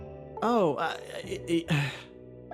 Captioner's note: stammering